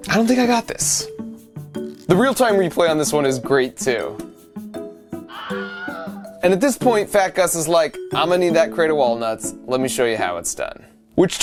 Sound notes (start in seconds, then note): 5.2 person screaming